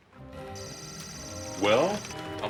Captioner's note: beeping